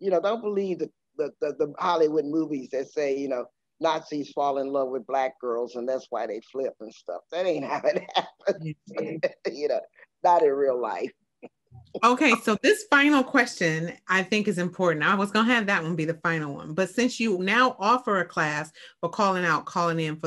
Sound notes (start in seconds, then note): 7.5 laughing